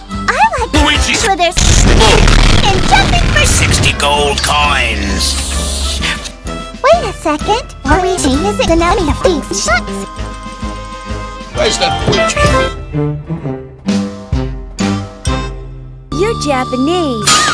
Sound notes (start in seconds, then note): 6.0 gasp